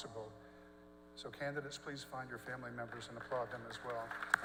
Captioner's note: applause